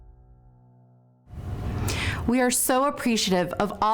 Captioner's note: none